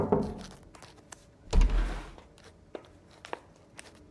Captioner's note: knocking; footsteps entering; door opening